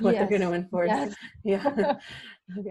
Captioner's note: laughing